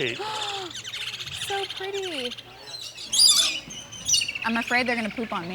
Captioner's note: gasping